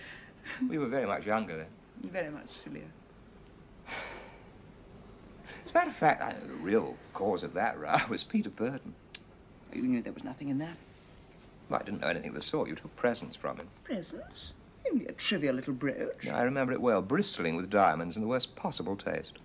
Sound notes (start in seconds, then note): 3.9 sigh